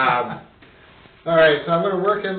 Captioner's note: laughing